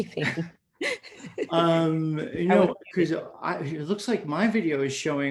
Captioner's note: laughs